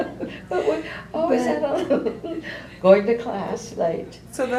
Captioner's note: laughs